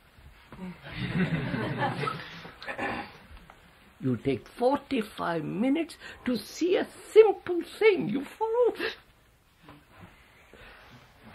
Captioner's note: laughter